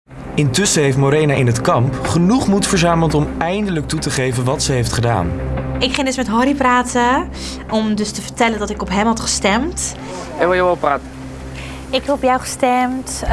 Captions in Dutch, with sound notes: [voice-over] Intussen heeft Morena in het kamp genoeg moed verzameld... om eindelijk toe te geven wat ze heeft gedaan. Ik ging met Harrie praten om te vertellen dat ik op hem had gestemd. Waar wil je over praten? -Ik heb op jou gestemd.